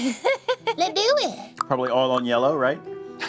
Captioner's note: laughs